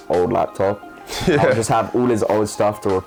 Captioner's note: laughs